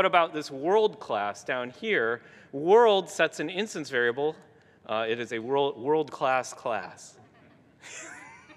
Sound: gigglings

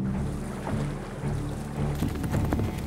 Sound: water streaming; hoofbeats

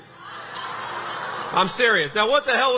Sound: audience laughs

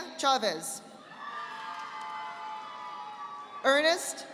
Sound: audience applauding

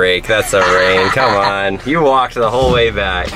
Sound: laughing

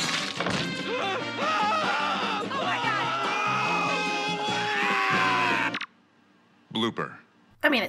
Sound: screaming

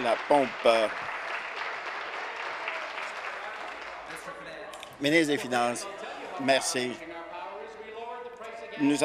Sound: applause

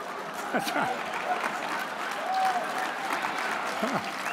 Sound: audience applauds

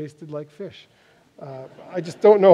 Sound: laughter

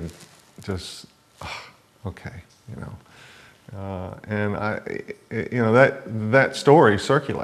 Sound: exhale breath sound

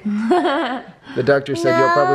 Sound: laughing

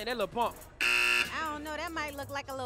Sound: buzzes

